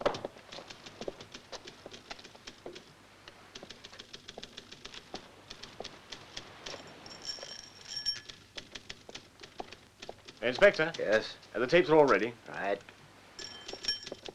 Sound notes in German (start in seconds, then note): 2.9 Schritte